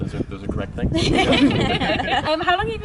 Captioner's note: laughter